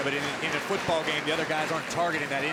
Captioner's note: crowd chatter